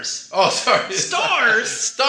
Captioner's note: laughs